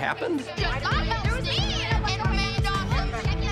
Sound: arguing

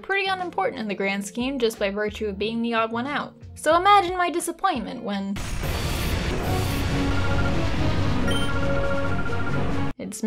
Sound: explosion

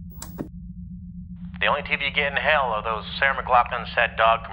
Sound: click

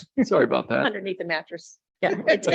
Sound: laughs

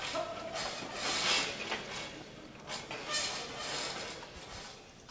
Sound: people chattering

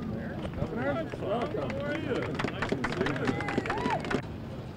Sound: applause

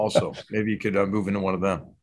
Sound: laugh

